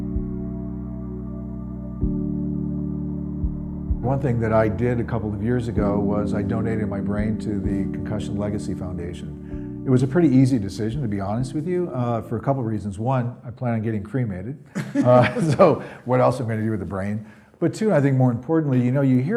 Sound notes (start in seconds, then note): 14.7 laughing